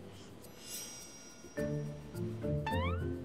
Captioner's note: subtle sound effects